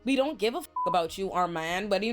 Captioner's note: beep